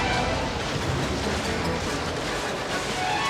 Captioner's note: wind whipping